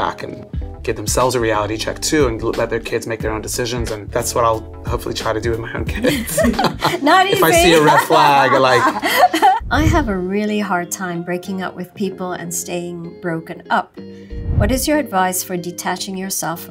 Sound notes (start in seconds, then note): 5.9 both laughing